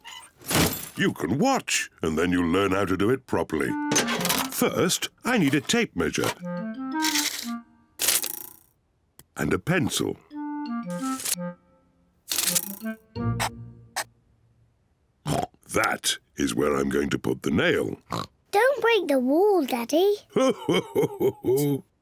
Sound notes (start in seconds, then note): 14.6 oinks; 20.3 chuckles